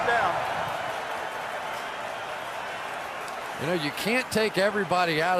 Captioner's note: cheering